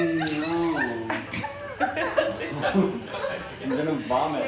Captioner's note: laughing